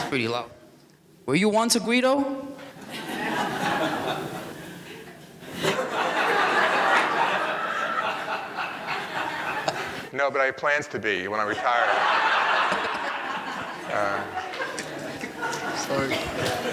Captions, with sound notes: that's pretty loud, were you once a guido? (audience laughing) - No, but I have plans to be when I retire. (audience laughing)